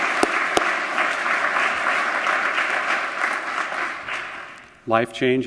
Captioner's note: applause